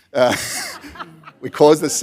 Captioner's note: laughter